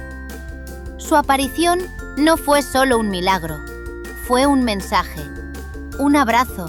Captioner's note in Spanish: Voz en off